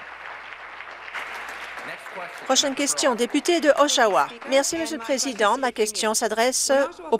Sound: applause

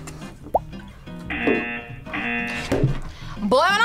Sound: buzzer

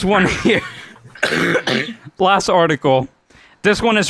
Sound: wheeze cough

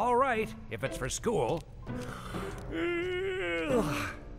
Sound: yawns

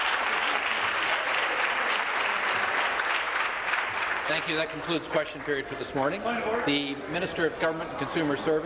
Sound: applause

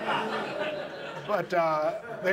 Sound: audience laughs

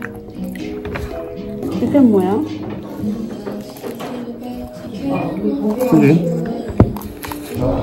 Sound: nom nom nom🍮

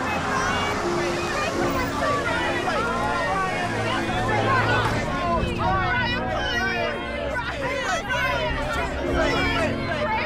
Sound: crowd ambience

